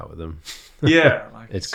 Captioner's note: laughs